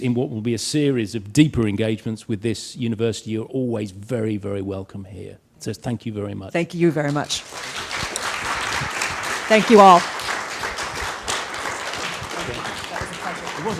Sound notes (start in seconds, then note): 7.1 audience applauds